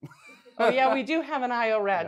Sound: laughs

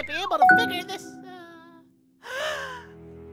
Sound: ding! - correct noise

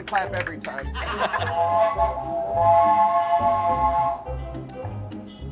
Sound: steam whistle

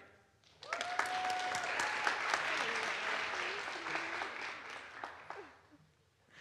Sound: audience applauds; audience cheers

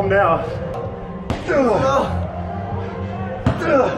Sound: grunting

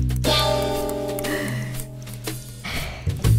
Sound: deep breath

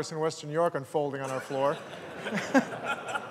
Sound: laughter

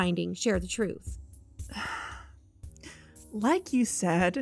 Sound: sigh

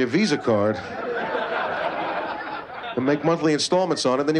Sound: laughter

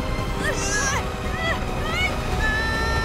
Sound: both grunting; screaming

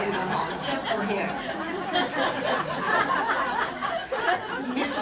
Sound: laughter

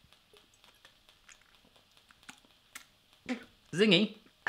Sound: gulps

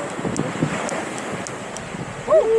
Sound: torch clicking; waves crashing; torch flaring

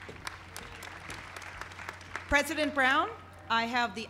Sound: applause

